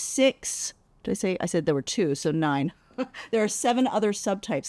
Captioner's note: laughs